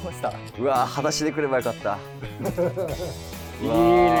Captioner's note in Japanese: スタッフ：笑い